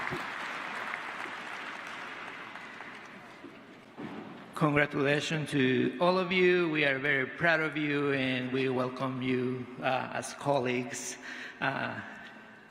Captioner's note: applause